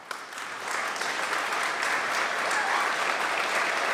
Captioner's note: applause